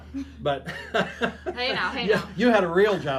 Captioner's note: laughs